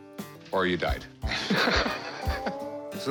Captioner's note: laughs